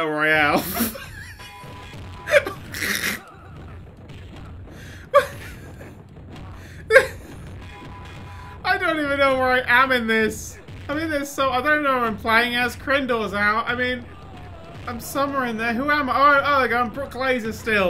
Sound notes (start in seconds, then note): 0.5 giggling madly; 2.3 snort; 5.1 wheezing laughter